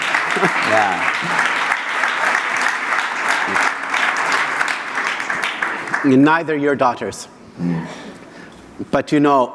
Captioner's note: AUDIENCE LAUGHTER and APPLAUSE